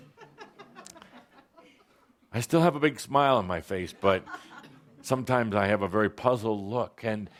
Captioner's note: laughter